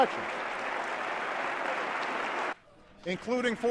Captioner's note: audience applauds